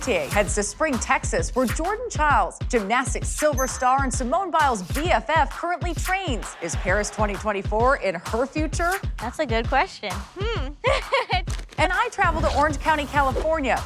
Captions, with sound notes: to Spring, Texas where Jordan Chiles, gymnastic silver star and Simone Biles BFF currently trains. Is Paris 2024 in her future? That's a good question. Hm. [laughing] And I travel to Orange County, California